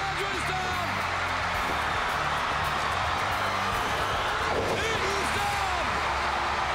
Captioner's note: applause